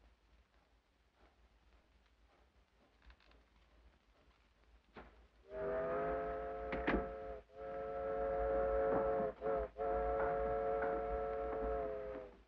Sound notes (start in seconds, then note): 5.4 train horn whistles